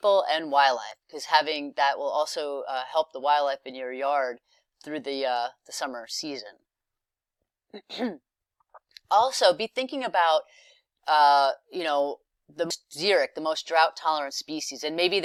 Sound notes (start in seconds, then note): 7.7 cough